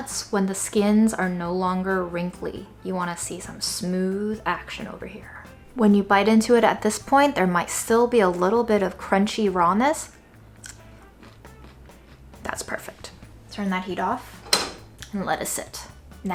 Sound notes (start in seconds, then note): 10.5 peanut crunches; 14.4 pan clangs